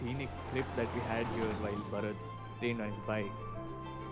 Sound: vehicle approaching

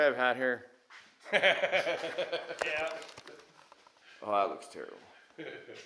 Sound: laughs

